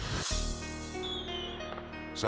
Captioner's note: edgy dramatic whoosh; fireworks whistling; gentle music